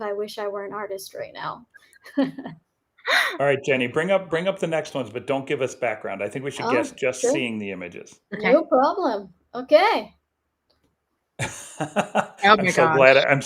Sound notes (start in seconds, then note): 2.0 chuckles; 11.4 laughs